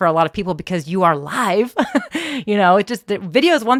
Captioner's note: laughs